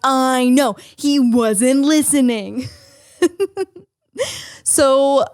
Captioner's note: laughs